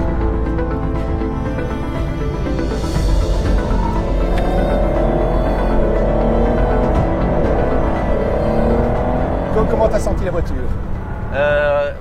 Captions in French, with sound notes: [Vrombissement du moteur] Comment trouves-tu la voiture ?